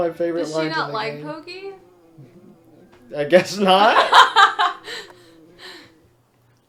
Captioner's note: laughs